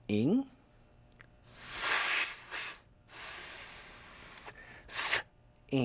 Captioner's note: making "s" sound